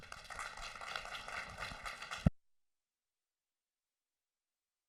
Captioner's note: applause